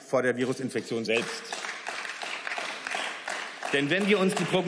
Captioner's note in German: Beifall